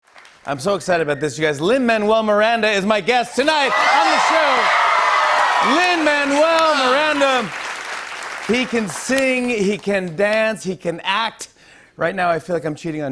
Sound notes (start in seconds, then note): 3.3 cheers and applause